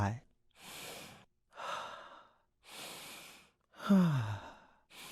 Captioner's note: deep breaths